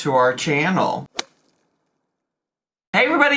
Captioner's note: logo thuds